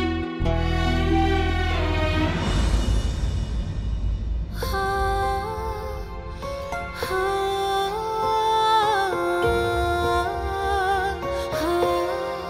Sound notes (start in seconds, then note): 0.3 emotional music playing; 4.5 emotional vocalising